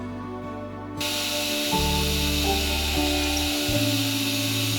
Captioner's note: drill whirring